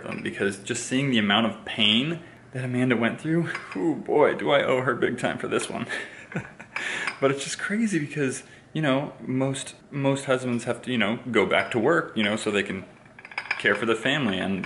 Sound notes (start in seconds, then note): 5.9 laughter